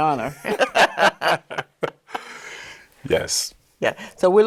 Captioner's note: both laugh